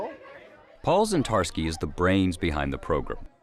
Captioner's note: voiceover